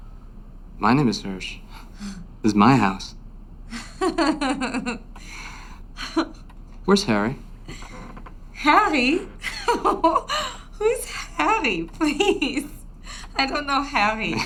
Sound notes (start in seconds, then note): 3.7 laughs